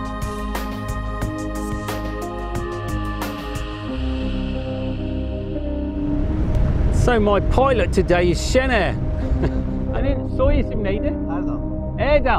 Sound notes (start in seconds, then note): 9.2 chuckles; 9.9 speaks in foreign language